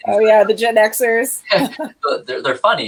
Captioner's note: laughs